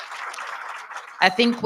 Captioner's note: audience applauds